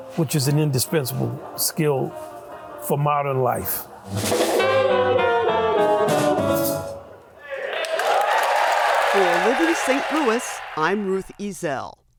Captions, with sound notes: which is an indispensable skill for modern life. (groovy jazz music) (audience cheering) (audience applauding)